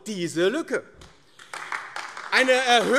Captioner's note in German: Beifall AfD